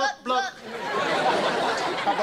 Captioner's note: audience laughter